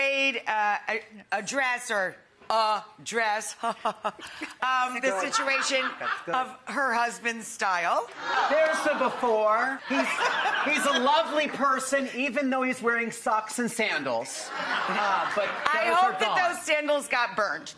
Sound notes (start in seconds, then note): 5.1 Rachael fake laughing; 10.1 audience laughing; 14.4 audience laughing